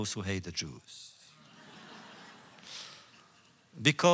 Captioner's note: laughter